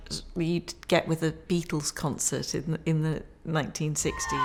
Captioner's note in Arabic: هتافات الجمهور